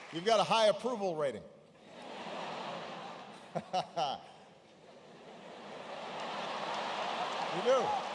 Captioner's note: laughter